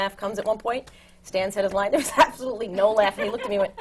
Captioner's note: laughs